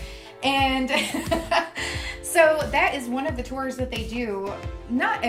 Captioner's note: laughs